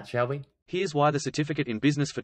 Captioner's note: voiceover